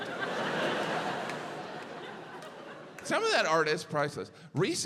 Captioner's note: audience laughs